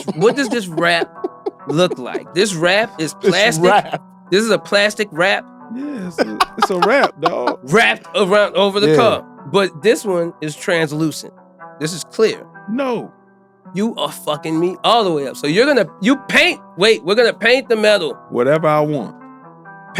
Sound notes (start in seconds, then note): 5.9 laughing